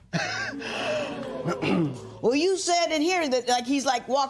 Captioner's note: chuckles; spectators Ooh